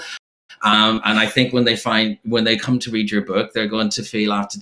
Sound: chuckles

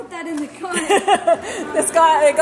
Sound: mom laughs

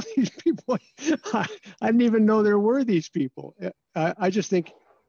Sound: laughter

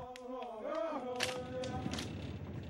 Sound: men chanting

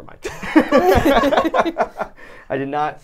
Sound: laughing

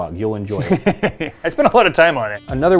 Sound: laughs

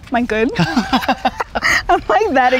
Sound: laughing

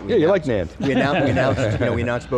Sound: hosts laughing

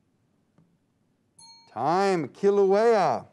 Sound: timer dings

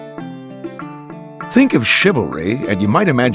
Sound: voiceover

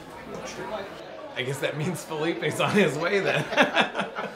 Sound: laughter

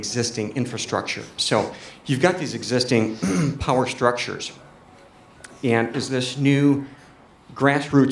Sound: cough

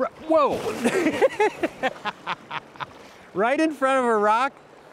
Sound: laughing

